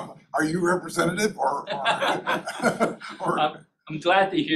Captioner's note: chuckling